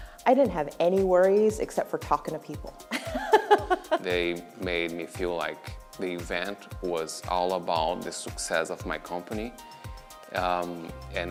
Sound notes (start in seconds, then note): 3.0 laughing